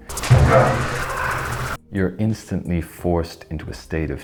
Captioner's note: loud sound effect